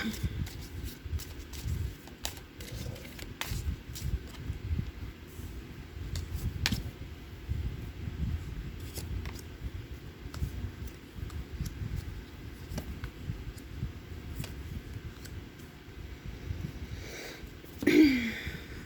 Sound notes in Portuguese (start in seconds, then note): 7.9 limpando a garganta; 7.9 suspirando